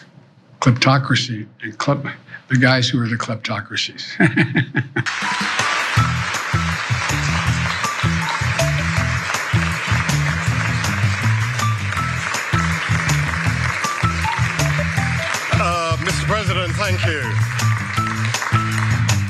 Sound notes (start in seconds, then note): 4.2 laugh; 5.0 applause